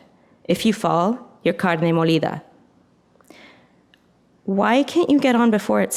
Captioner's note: speaks in foreign language